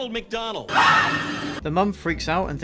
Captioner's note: scream